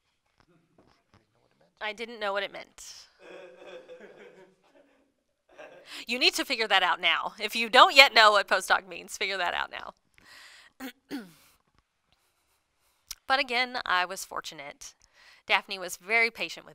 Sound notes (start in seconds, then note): 3.2 laughter